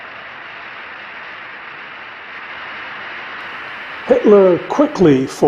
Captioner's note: audience applauding